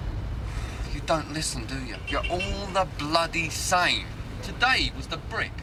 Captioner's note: sighs